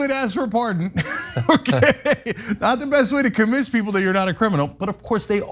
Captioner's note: laugh